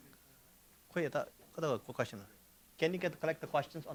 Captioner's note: speaking in foreign language